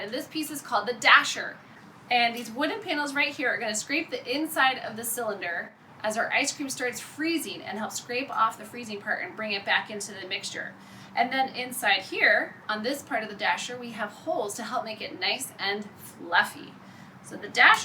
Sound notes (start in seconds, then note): none